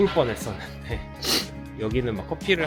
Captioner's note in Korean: 훌쩍